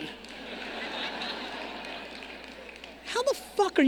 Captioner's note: audience laughing